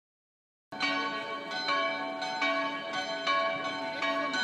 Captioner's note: bells start to toll